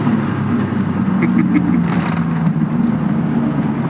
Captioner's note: dumb laughter